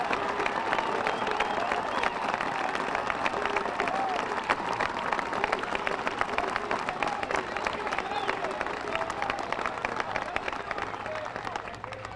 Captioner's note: applause